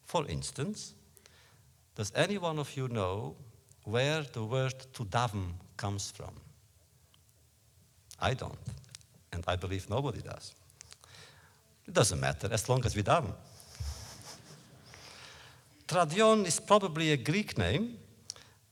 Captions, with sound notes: For instance, does any one of you know where the word “to daven” comes from? I don’t, and I believe nobody does. It doesn’t matter, as long as we daven! (laughter) Teradyon is probably a Greek name,